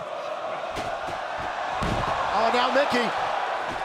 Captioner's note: crowd exclaims